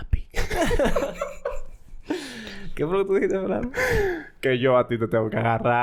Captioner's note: laughs